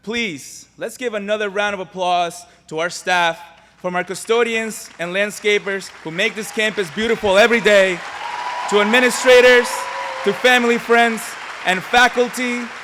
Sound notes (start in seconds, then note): 8.4 applause